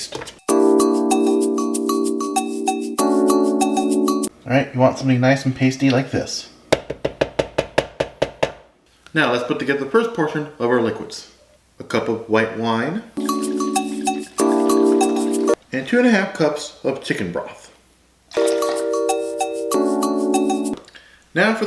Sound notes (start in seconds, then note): 0.4 latin jazz music; 7.0 tapping; 13.2 latin jazz music; 18.4 latin jazz music